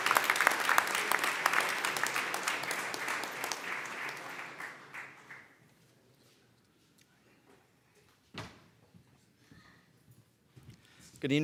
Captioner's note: applause